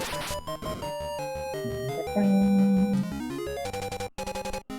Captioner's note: humming along